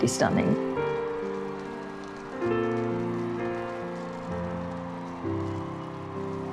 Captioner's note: crowd cheering; peaceful music